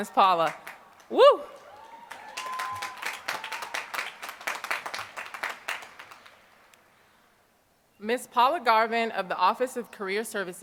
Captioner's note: applause